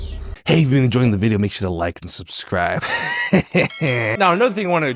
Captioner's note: laughs